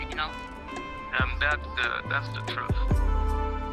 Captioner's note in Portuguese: homem em inglês